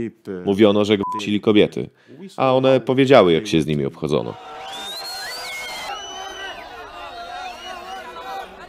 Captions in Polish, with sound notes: mówiono że kobiety a one powiedziały jak się z nimi [Aplauz]